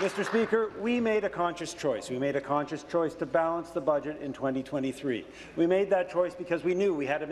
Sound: applause

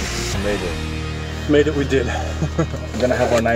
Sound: chuckles

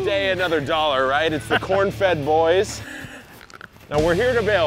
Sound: bites corn

